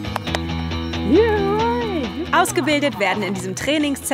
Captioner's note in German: Lockrufe